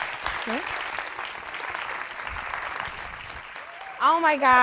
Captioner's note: audience applauding